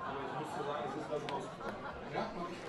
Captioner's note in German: Lachen, Gemurmel